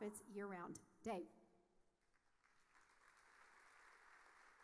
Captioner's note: audience applauding